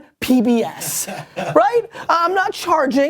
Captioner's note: people laughing